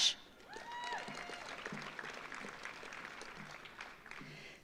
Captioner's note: audience applauds